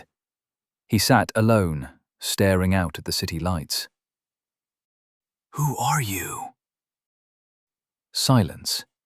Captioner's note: whispering